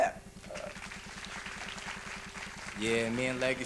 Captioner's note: applause